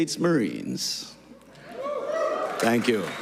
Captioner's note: applause